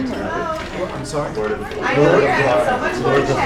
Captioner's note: audience Talking